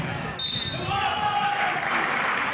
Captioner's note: whistling; applauding